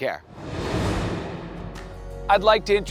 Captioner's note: air whooshing